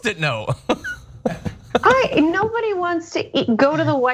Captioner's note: laugh